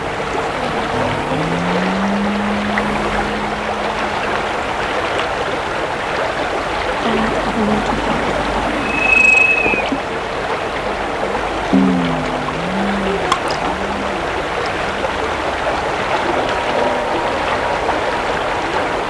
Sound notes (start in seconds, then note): 0.0 popping sound distorts; 5.0 running water continues; 8.9 high-pitched noise; 11.2 running water, popping